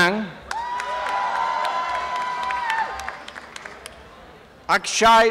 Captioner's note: applause and cheering